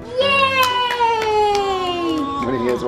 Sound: clapping

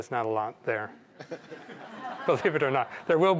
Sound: laughter

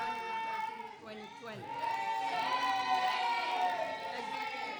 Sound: students shouting

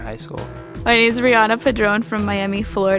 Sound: voiceover

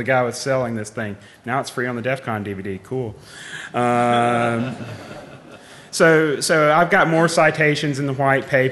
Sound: laughing

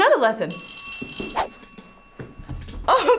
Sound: alarm rings

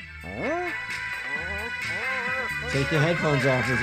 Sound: loud disco music; Disco Bear groaning

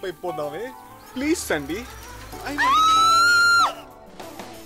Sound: screams

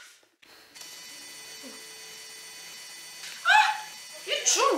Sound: whirrrrrrrrr

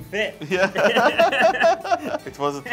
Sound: laughs

